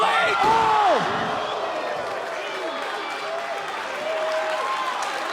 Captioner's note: crowd cheering